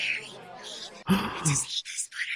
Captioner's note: huh in shock